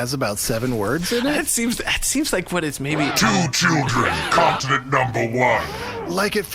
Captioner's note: laughing